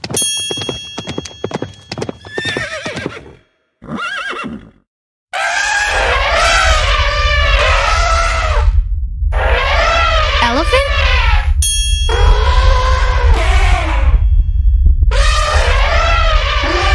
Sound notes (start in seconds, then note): 0.1 bell dings; 3.8 horse whinnies; 5.4 animal trumpeting; 6.0 ground rumbling; 11.6 bell dings; 11.7 elephants trumpet